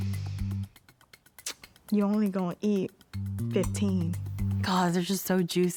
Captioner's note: clicks tongue